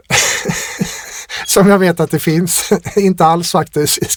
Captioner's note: laughter